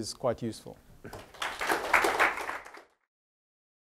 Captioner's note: applause